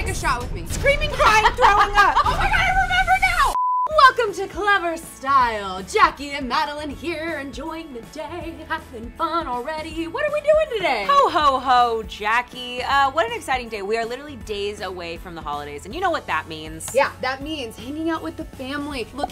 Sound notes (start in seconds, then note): 3.5 short beep